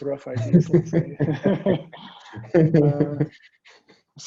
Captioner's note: all laughing